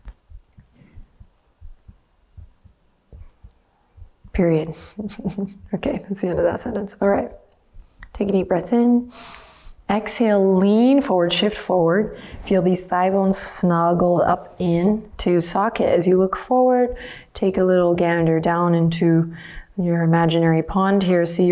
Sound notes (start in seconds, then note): 4.7 chuckles